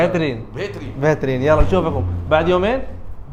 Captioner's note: Arabic